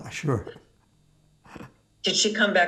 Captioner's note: laughing